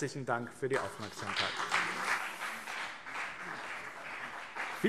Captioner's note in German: Anhaltender Beifall BÜNDNIS 90/DIE GRÜNEN - Beifall CDU